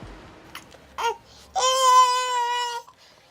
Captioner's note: baby crying